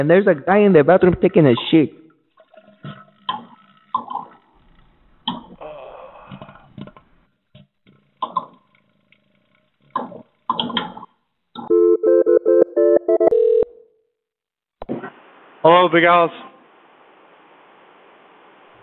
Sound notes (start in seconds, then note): 5.4 sighing; 8.3 phone ringing